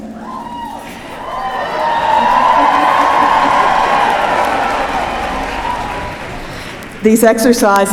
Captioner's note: cheering